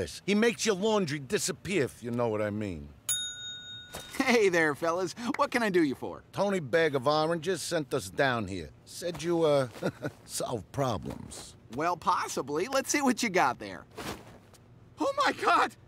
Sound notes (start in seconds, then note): 3.1 bell rings